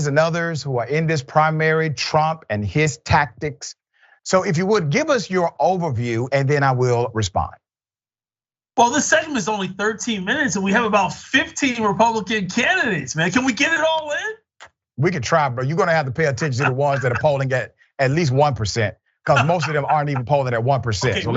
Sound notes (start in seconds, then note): 16.3 laugh; 19.2 laugh